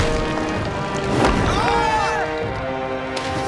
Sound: screaming

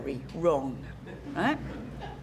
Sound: laugh

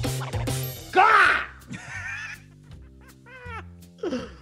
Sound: laugh

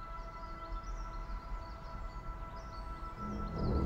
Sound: birds Chirping

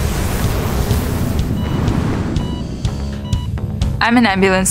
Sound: medical monitoring device bleeps

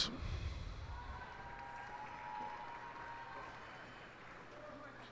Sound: cheers and applause

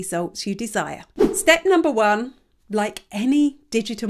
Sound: image whooshes

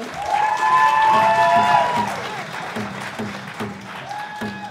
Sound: audience cheering

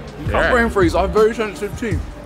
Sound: groans

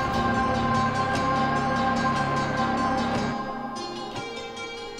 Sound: clock ticking

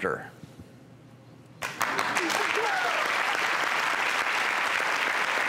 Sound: crowd cheers

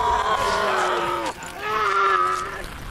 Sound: man shrieks; skin peels; mans shriek continues

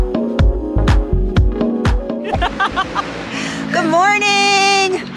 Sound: laughter

